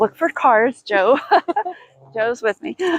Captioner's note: laughing